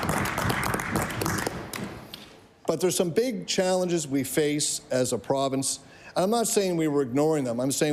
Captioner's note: applause